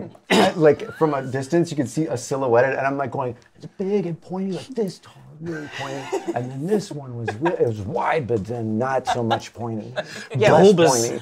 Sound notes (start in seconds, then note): 5.4 laughs